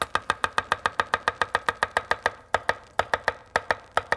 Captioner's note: knife chopping